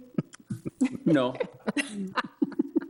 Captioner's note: board members laughing